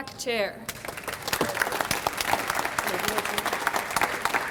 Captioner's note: audience applauds